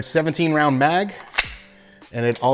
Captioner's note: magazine clicking